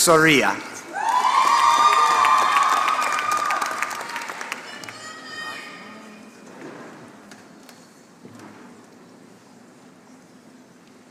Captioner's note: applause